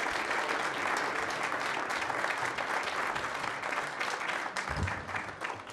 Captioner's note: applause